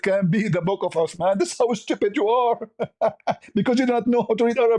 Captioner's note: ketawa